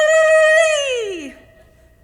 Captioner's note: screams